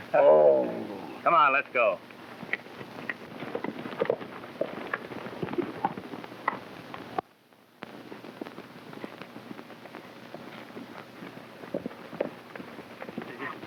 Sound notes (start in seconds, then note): 2.0 hooves clopping